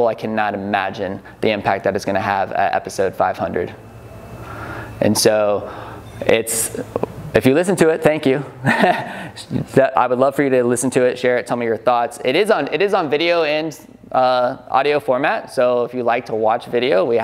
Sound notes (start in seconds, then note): 8.6 laughs